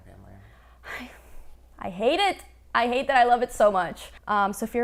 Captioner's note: sighs